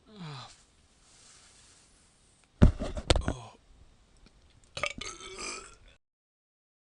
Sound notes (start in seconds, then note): 4.9 strangling noises